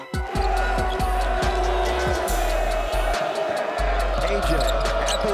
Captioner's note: crowd cheering and chanting